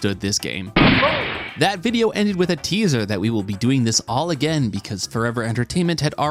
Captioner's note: gunshot